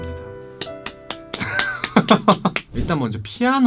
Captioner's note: clapping